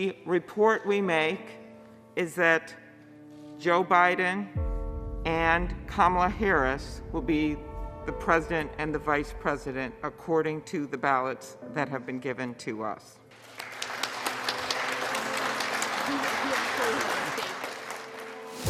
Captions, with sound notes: - The report we make is that Joe Biden and Kamala Harris will be the president and the vice president, according to the ballots that have been given to us. (clapping)